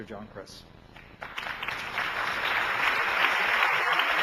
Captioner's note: applauding